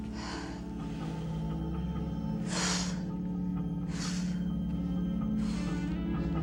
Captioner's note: soft music; Jill inhales and exhales